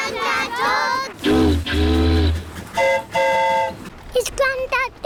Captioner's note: boat horn honks; train horn toots